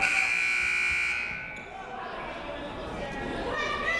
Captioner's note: siren buzzing